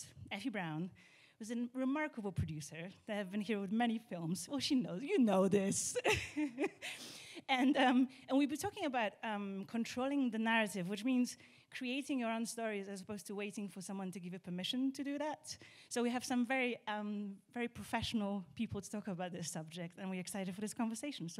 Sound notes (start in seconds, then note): 6.8 laughs